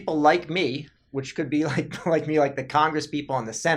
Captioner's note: laughs